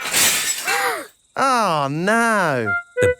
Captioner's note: shatters